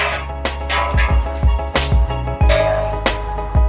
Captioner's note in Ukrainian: Скреготіння металу